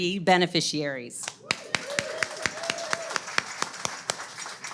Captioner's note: audience claps